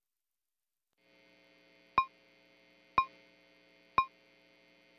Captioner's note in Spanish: metrónomo a tiempo con los números